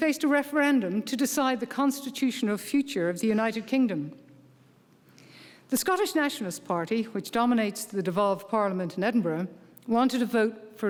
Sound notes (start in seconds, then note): none